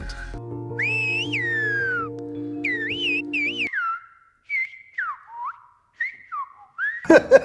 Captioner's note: people using whistle language; laughs